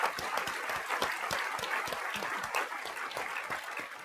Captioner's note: applause